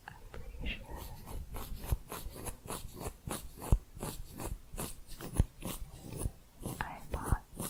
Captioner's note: louder scissors sounds